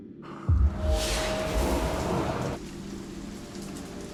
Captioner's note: magical hum